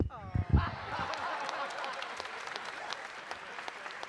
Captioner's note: audience cheering